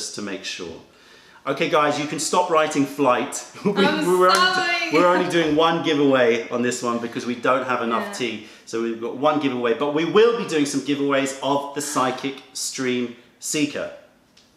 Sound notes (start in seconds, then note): 3.6 laughter